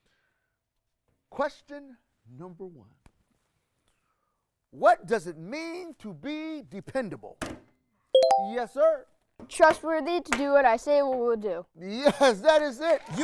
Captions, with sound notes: Question number one. What does it mean to be mean to be dependable? (beeping sounds) Yes, sir. - Trustworthy, to do what I say we will do. - Yes, that is it.